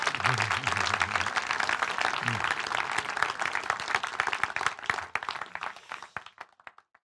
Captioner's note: laughs; crowd cheering